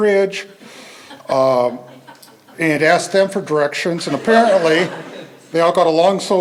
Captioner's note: laughter